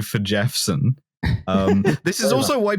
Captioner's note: laughter